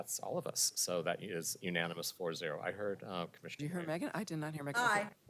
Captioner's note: chorus of ayes